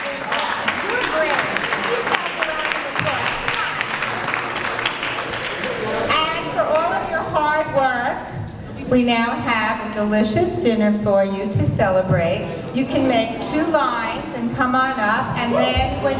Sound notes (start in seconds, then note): 3.8 applause